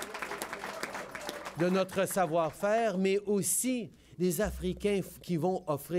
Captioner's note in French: Applaudissements